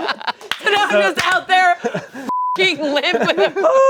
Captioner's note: beep